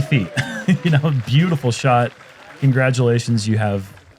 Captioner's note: chuckles; applause